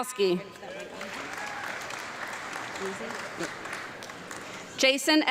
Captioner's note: audience clapping